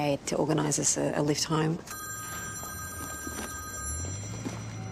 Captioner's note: phone rings